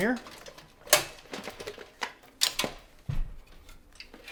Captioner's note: case clinking